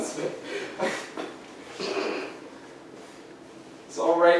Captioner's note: laughing